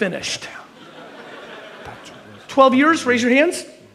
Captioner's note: audience laughs